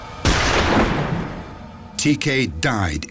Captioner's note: gunshot